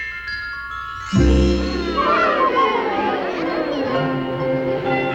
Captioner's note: crowd gasps